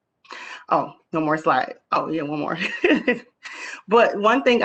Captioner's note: laughs